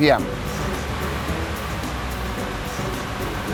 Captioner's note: engine reving